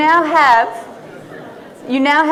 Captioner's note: audience laughing